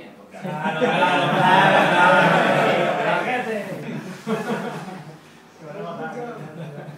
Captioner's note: laugh from assistants